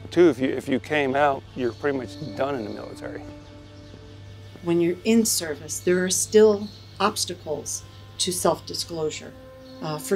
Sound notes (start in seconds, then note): 3.7 birds chirping; 3.7 uplifting music